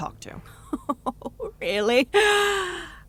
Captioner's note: chuckling